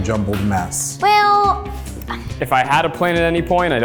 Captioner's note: sighs